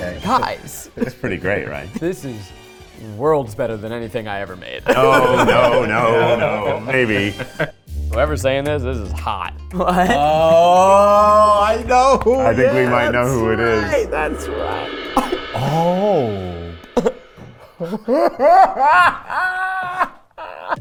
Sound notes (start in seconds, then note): 4.8 all laughing; 15.3 all gasping; 17.7 laughing